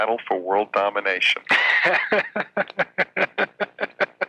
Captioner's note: laughing